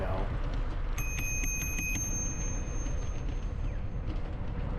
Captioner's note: bell rings rapidly 6 times